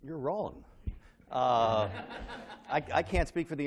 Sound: laughter

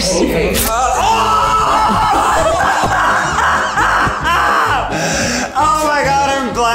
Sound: screams

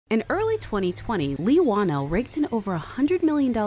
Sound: voiceover

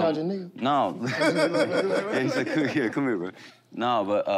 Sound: laughter

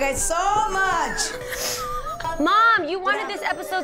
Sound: siblings laughing

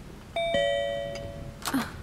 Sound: door bell rings

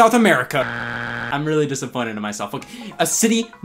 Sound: buzzer beeps

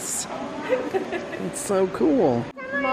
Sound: laughing

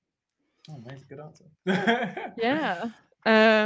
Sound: mumbles

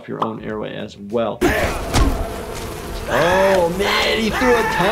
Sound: screaming

